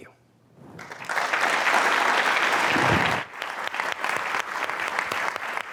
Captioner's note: applause